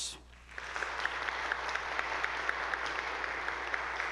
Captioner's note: audience applauding